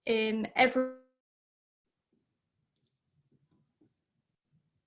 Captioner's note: audio cuts out